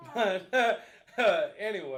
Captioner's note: laughing